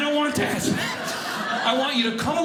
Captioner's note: audience laughing